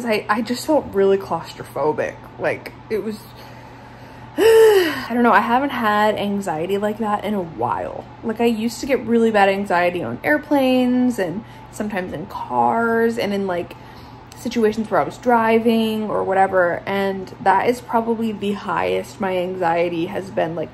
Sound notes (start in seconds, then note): 4.0 gasps